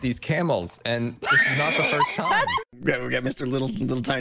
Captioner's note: wheezing